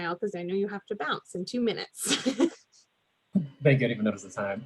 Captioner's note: laughs